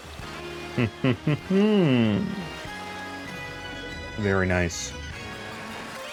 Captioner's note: villanous laugh